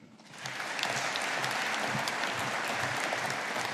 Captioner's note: audience applauding